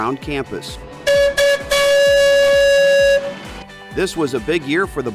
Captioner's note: horn tooting